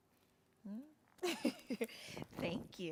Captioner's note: chuckles